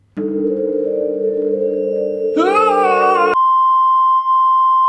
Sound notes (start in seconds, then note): 2.4 yelps